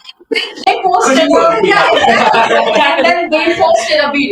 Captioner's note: laughter